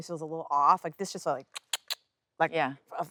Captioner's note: clicking